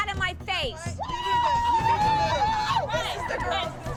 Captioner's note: whooping